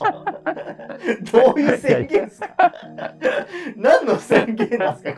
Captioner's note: laughing